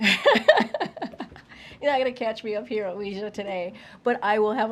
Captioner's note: laughs